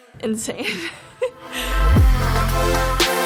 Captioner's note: laughs; upbeat electronic music